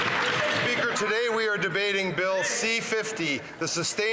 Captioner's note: some Applause